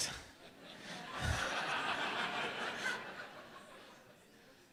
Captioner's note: laughter